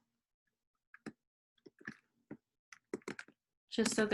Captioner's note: keyboard clanking